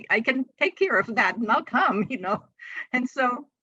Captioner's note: chuckles